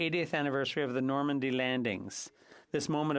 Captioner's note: speaking French